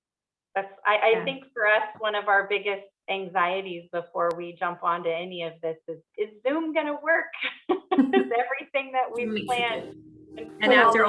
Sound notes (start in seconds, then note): 7.6 laughing